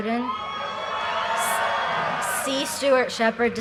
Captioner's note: audience cheers and applause